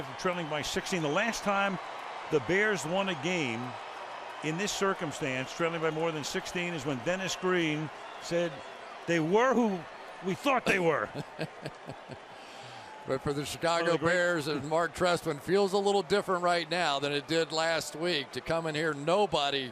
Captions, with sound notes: after trailing by 16. The last time the Bears won a game in this circumstance, trailing by more than 16, is when Dennis Green said, they were who we thought they were. [laughs] But for the Chicago Bears and Marc Trestman, feels a little different right now than it did last week, to come in here.